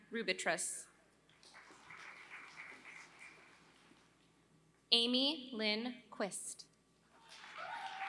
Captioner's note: applause; applause